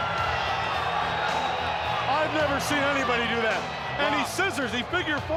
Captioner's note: crowd cheering